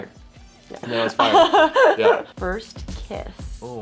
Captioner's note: Elle laughs